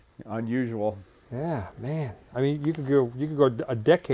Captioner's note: laughs